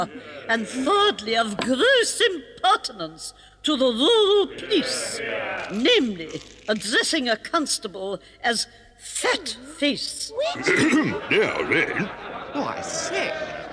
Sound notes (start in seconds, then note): 11.3 clears throat